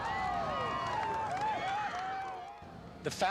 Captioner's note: crowd cheering